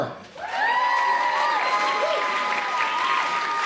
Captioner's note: applause